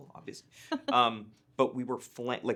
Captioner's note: chuckling